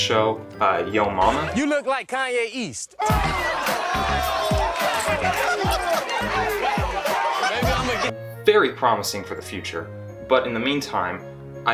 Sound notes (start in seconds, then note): 3.1 uproarious laughter